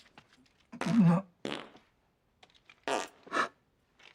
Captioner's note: flatulence